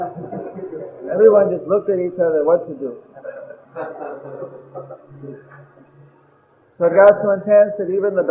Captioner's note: laughter